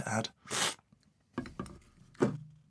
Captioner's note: slurp